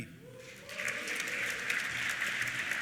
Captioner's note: cheers; applause